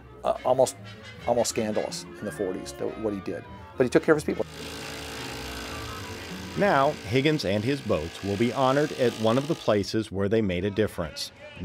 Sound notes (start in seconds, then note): 4.4 drilling sound